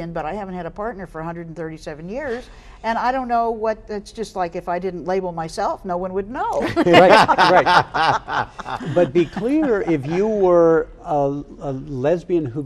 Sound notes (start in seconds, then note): 6.6 group laughs